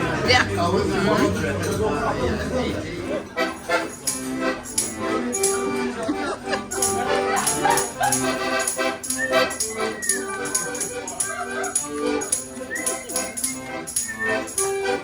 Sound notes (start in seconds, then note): 3.6 laughing; 3.6 person whistling tune; 3.6 upbeat accordion music